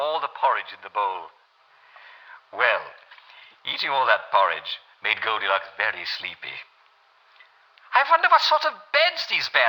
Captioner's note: German accent